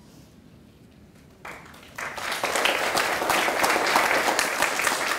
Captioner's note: clapping